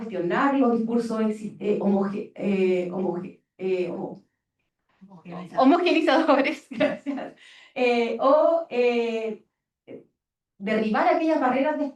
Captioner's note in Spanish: risas